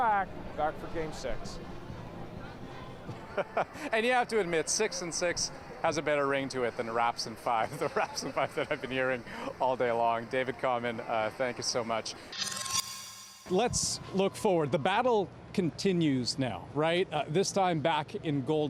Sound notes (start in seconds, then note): 7.6 laughter